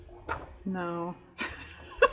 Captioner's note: laughs